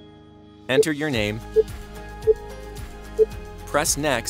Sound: screen beeps

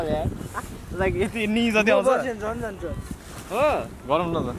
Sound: in Nepali

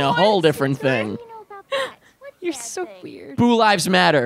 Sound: laughing

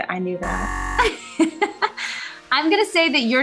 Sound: laughing

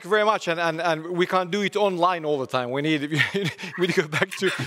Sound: laughs

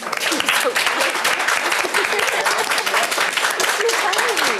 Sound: applause

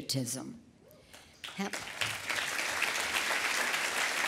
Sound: applause

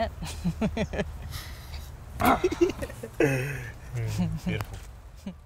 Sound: laughs; fists bump

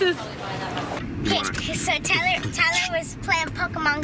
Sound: beat boxing

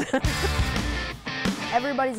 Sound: laughs

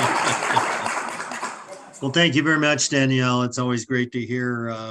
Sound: audience clapping

